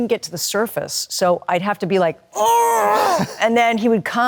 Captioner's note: grunting